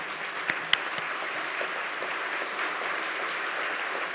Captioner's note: applause